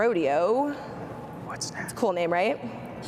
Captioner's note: whispering